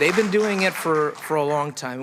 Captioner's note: applause